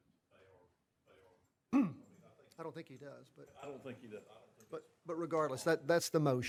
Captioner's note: off microphone